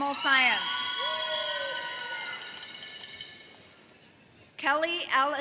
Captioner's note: cowbell jingles